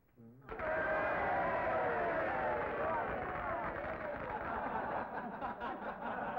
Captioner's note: audience cheering; audience applauding; crowd laughing